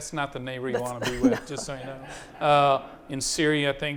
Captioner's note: audience applauding